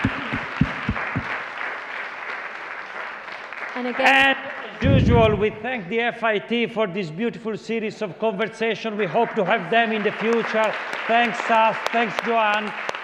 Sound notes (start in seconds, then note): 4.4 applause; 10.9 applause